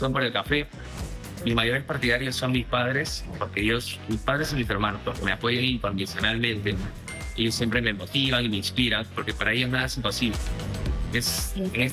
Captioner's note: speaking spanish